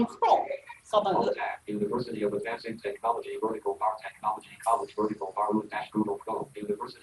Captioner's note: rapid artificial speech